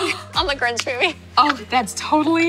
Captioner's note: laughs; gasps; claps